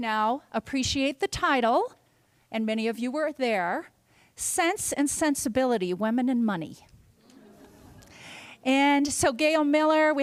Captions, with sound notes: Now, appreciate the title-- and many of you were there. Sense and Sensibility-- Women and Money. [LAUGHTER] And so Gail Miller.